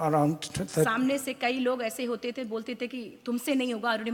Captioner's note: speaks foreign language